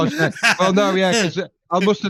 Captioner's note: laughing, crosstalk